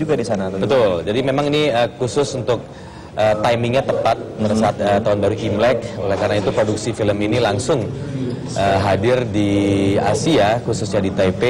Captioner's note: non-english speech